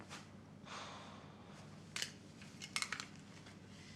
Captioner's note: Isaac sighs